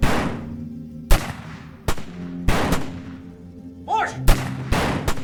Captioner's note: soft orchestral music; guns firing